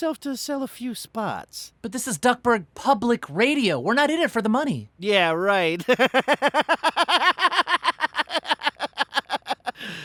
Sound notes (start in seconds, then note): 5.8 laughs